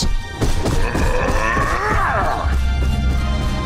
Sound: grunting

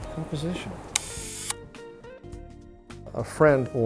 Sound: shutter click

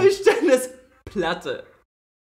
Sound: laughs

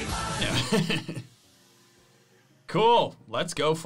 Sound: laughs

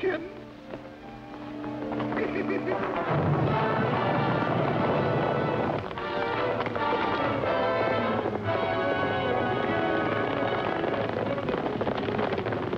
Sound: laughs

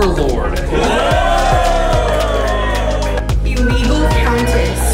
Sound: crowd cheering

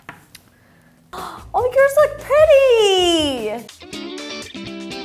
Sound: gasps; energetic music

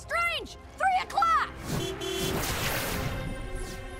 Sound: car horn honks

